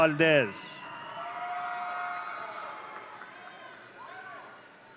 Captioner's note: audience cheering